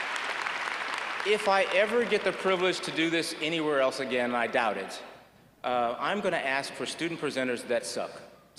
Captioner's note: applause